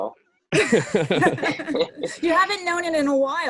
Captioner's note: laugher